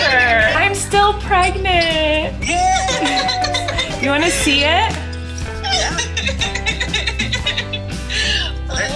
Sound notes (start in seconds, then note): 5.8 laughter